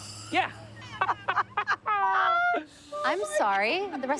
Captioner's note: laughing